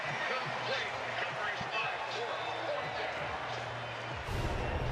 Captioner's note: pa announcement